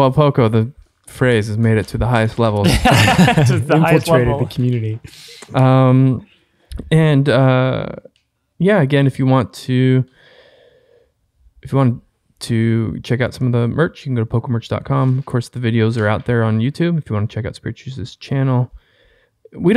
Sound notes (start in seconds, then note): 2.6 all laugh